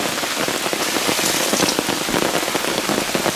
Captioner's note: rain